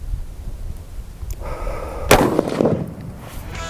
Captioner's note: gun shot